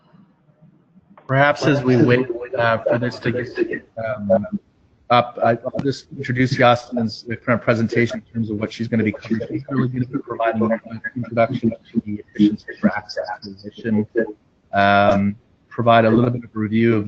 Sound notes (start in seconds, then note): 6.7 echo